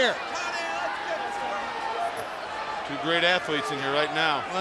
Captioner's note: crowd chatter